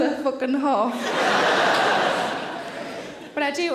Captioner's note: audience laughing